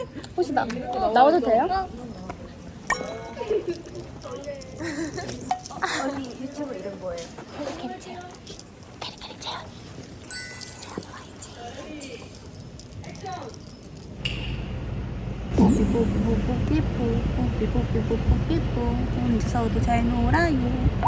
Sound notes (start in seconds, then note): 8.4 suddenly whispering because filming started; 10.3 whispers